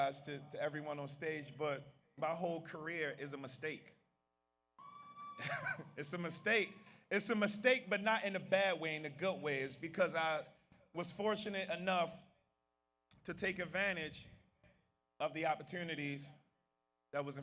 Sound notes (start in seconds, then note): 4.8 audience member cheers; 5.3 laughs